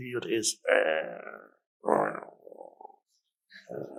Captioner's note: Eckhart growls